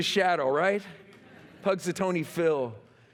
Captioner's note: laughter